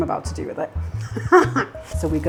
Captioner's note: laughs